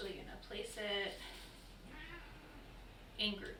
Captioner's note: cat meowing